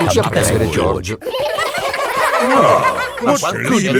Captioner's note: giggling